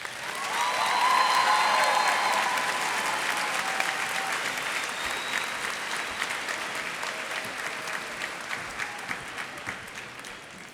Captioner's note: cheers and applause